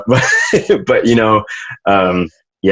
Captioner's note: laughs